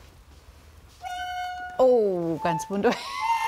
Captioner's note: squeaking sounds